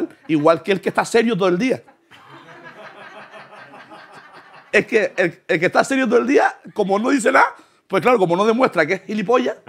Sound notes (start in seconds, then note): 2.6 laughter